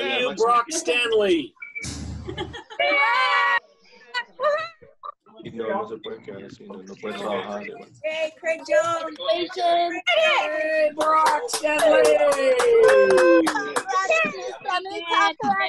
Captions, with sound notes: - Hey you, Barak Stanley! (woman laughing) (people cheering) - Yay, Craig Jones! - Congratulations! - Yay, Barak Stanley! (people cheer, chat, and clap)